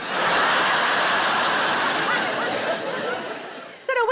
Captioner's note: audience laughing